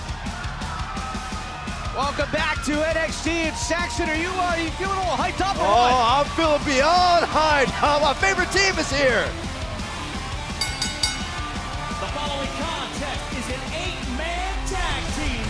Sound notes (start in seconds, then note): 10.5 bell ringing